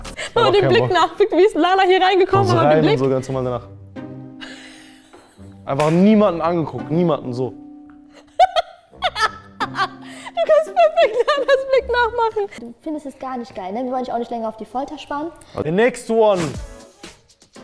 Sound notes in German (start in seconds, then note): 2.3 Freche Klänge, Lachen; 8.2 Lachen; 15.8 Lockere Musik